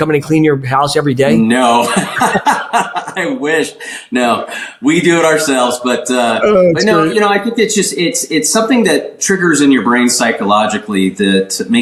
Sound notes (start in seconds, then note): 1.6 laughs